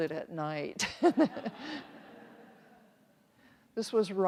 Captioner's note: everyone chuckles